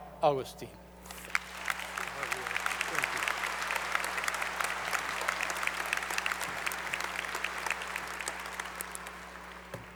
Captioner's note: applause